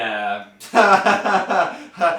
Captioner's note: laughs